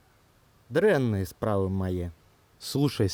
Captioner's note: speaking Belorussian